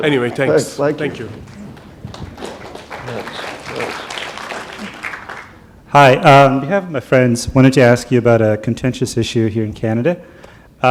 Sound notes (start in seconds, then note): 1.4 applause